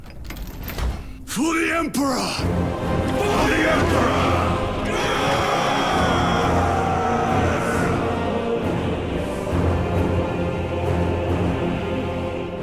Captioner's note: screaming